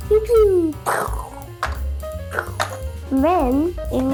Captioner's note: mimics sound effects